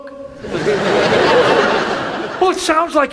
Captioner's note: audience laughs